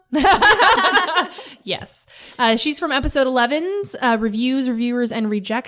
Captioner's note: laughter